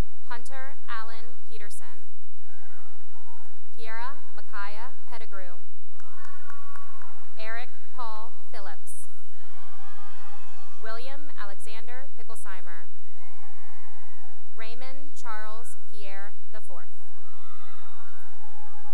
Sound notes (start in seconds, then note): 2.4 cheering and applause; 5.9 cheering and applause; 9.6 cheering; 13.6 cheering; 17.0 cheering